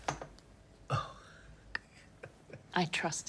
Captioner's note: chuckles